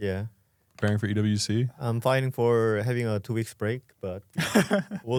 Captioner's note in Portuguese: risos